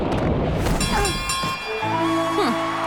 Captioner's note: dinging